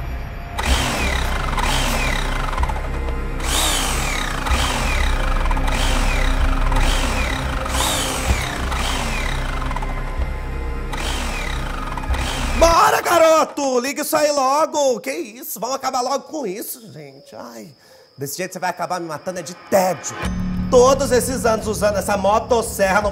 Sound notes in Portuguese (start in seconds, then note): 0.2 motor de motosserra falhando; 12.5 gritando